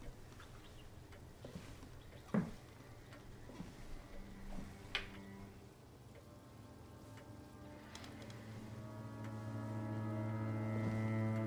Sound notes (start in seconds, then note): 1.2 footsteps tap; 5.6 soft, foreboding music